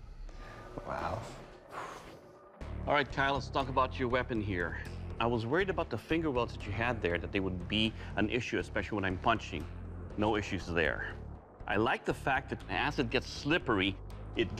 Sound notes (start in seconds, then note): 0.1 exhales